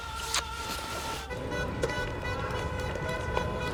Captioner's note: kisses